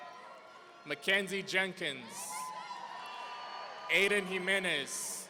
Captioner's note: audience cheering